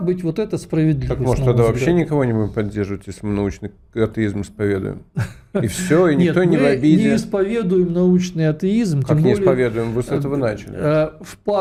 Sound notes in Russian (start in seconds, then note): 5.1 смех